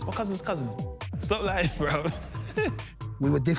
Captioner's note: laughing